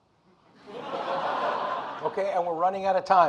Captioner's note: audience laughing